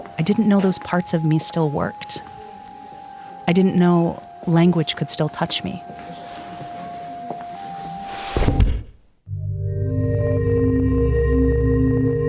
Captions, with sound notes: I didn't know those parts of me still worked. I didn't know language could still touch me. (dramatic music) (footsteps tapping) (dramatic music)